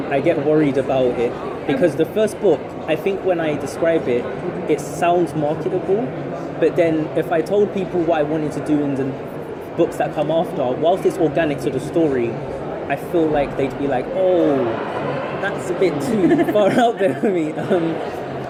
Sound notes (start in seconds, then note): 16.0 laughs